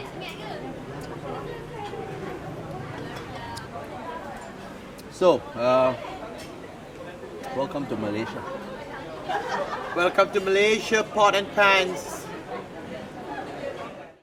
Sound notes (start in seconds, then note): 0.9 chewing sounds